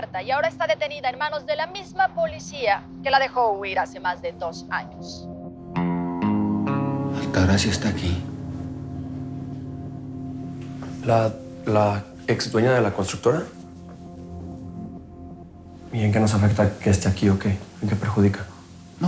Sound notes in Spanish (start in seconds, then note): none